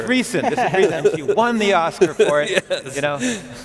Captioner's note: laughing